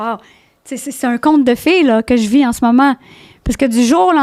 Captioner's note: in french